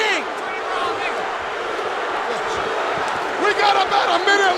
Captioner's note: crowd cheering